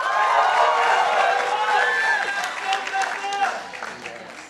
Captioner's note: participants applauding